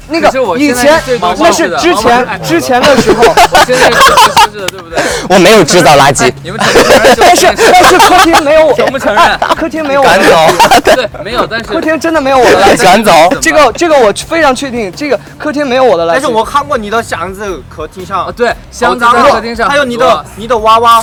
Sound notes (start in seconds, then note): 6.7 more overlapping arguing + laughing